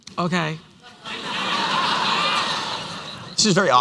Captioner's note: laughter